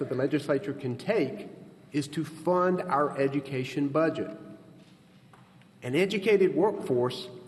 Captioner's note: none